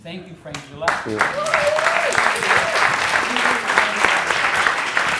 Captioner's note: audience applauds